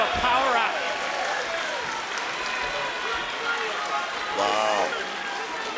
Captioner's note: crowd cheering